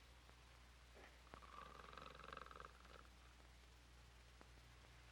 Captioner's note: Murdock snores